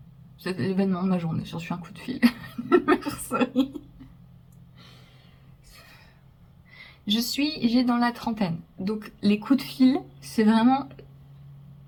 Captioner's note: laughs